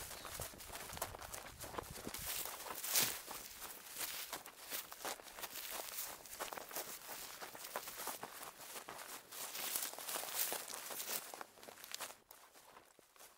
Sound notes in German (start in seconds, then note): 2.2 Schritte - Laub rascheln